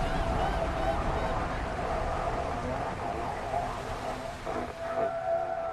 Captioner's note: gulls squawking; radio static crackling